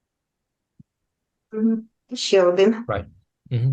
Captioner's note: foreign Language